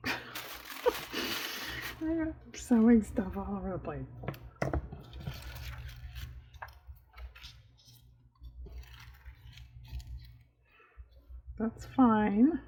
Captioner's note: laughs